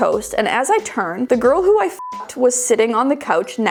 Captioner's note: beeping